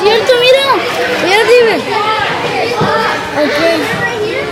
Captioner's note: speaks in a foreign language